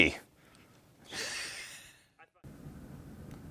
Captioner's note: laughs